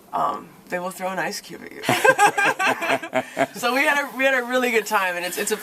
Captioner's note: laughter